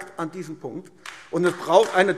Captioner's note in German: Beifall AfD